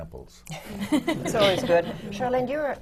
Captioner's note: laughter